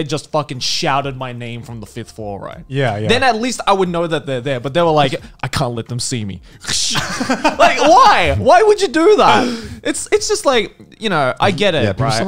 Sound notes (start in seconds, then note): 6.7 men laughing; 6.9 imitates shutter clicking